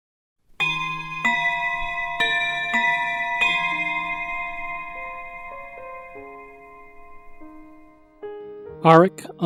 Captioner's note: clock Chimes